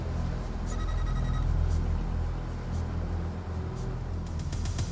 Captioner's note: soft suspenseful music; text beeping